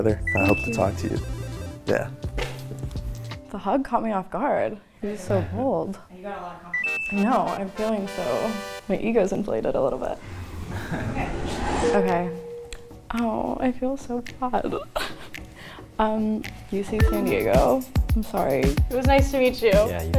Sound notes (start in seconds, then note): 7.4 triumphant music; 10.7 men laughing; 14.6 laughs